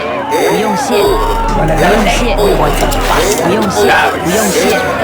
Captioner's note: voices yelling